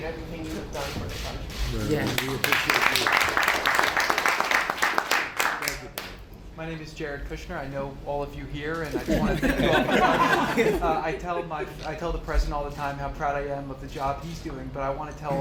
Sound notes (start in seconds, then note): 2.0 applause; 8.9 laughter